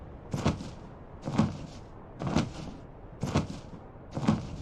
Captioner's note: wings flapping